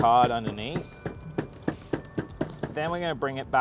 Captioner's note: table banging